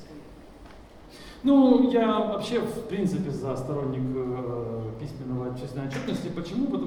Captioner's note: speaking in foreign language